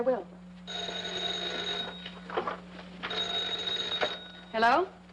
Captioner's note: phone ringing